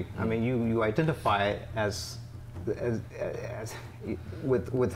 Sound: stuttering

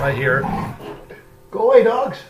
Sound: growling

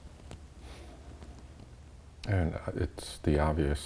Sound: sighs

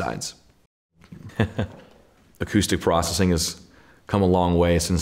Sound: laughs

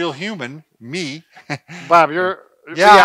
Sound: laughing

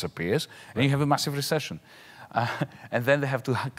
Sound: chuckles

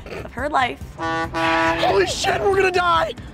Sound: truck beeping

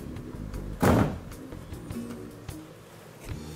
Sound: door slamming; soft upbeat music

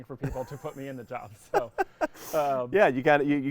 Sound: laughing

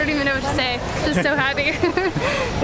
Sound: laughter

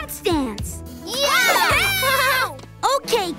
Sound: cheering

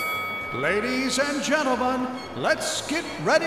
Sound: ding ding ding!

